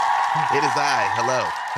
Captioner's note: audience cheering sound effect